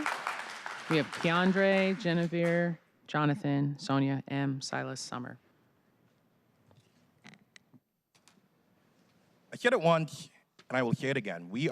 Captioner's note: applause